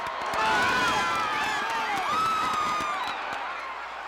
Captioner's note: audience cheering